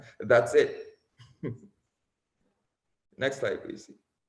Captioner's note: laughs